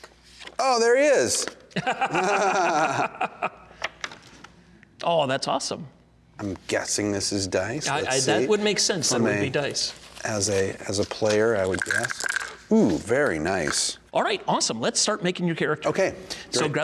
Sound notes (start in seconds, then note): 1.7 laughing